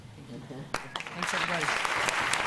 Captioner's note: applause